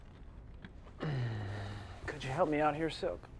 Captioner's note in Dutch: ongemakkelijke zucht